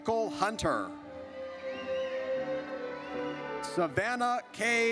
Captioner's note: audience cheers